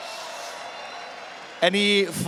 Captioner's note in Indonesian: Tepuk Tangan